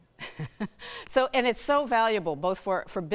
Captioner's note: chuckling